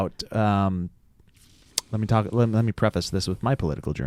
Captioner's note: smacks lips